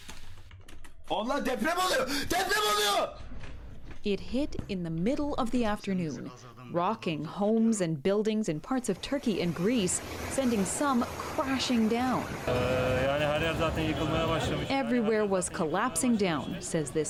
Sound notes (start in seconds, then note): 2.9 speaking Foreign Language